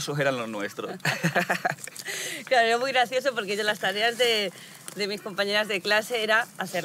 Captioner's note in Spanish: Risas